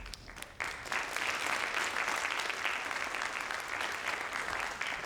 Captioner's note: audience applauds